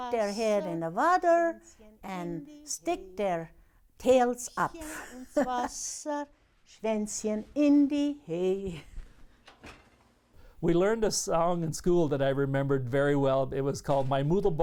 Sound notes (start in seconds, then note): 7.6 laughs